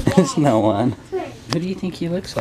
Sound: laughs

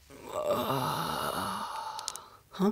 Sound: yawns

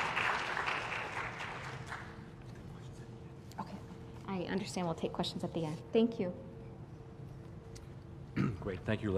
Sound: applause

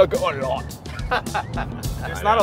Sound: all laughing

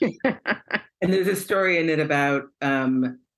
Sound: laughter

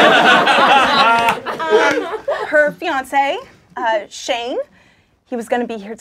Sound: laughing

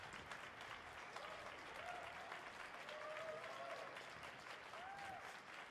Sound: audience whooping

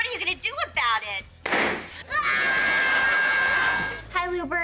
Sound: crying; shooting

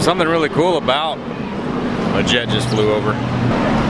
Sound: jet noise

